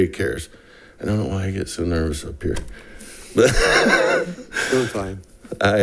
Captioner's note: laughs